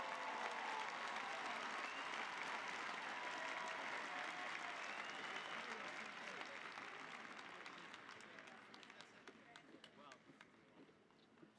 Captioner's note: applause